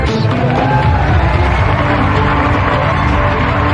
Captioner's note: wild cheering and applause